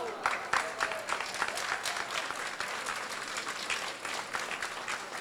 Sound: crowd applauds

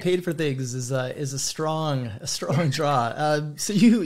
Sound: both laugh

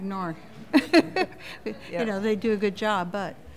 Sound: laughter

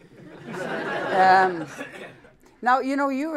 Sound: laughter

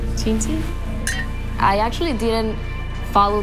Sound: glasses clink

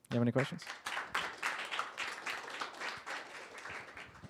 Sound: applause

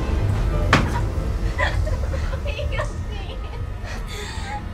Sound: Heather sobbing

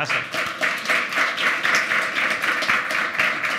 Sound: applause

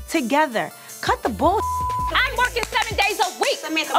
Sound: beep

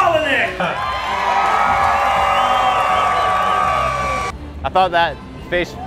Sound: audience cheers

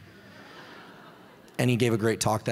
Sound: audience laughs

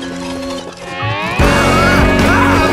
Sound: yelling

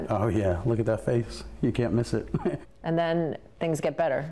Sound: chuckles

